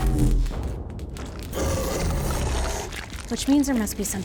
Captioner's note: monster growls